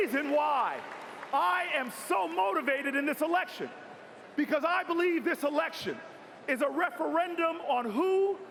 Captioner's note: cheers and applause